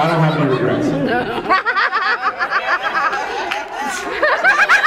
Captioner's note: laughs